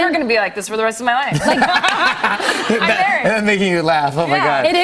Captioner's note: laughs